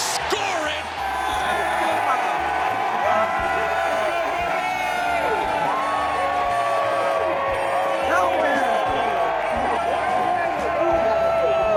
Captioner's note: crowd Cheers